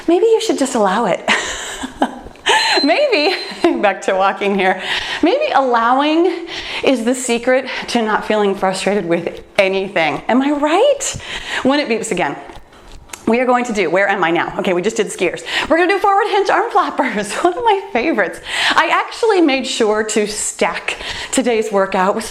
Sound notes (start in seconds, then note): 1.3 laughs; 2.5 timer beeps